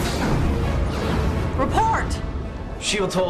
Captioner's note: explosion